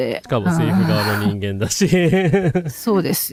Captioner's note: laughter